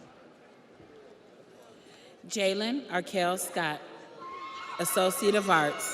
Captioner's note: audience cheers